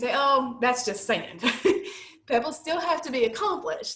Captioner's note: laughter